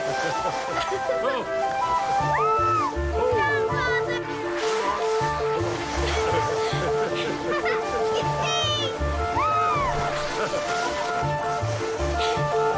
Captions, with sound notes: [laughing] Aah! Grandfather! Yipee! [screaming]